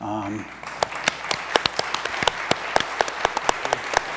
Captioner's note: audience applauds